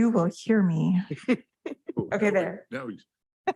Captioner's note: chuckling; continues chuckling